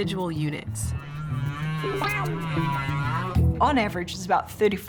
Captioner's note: whale singing